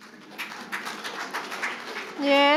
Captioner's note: audience applauding